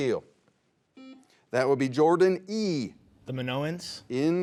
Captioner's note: buzzer beeps